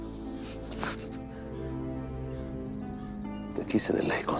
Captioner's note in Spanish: Sollozos